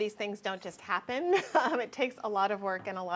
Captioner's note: chuckles